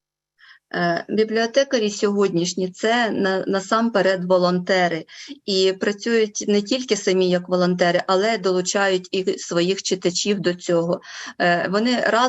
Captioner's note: foreign Language Spoken